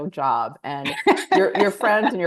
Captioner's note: laughs